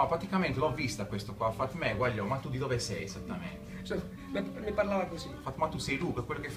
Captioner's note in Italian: accento barese